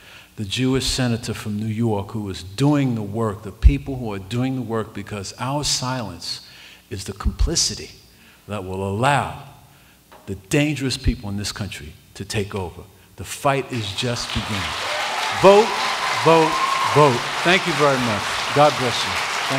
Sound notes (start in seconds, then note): 13.7 applause